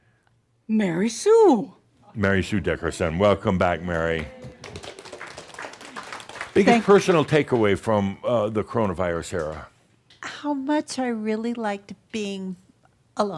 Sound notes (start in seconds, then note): 3.5 audience applause